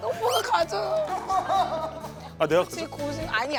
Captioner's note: crying😭